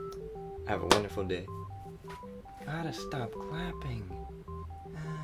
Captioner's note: claps loudly